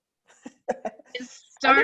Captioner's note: laughs